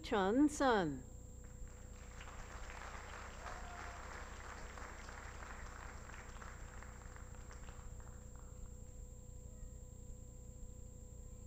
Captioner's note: applause